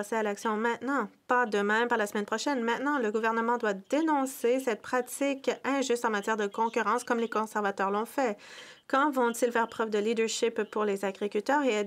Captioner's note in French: voix de l'interprète